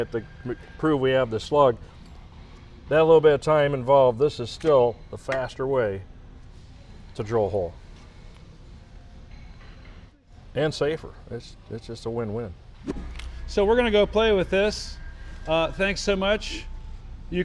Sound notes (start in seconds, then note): 12.8 transition whooshes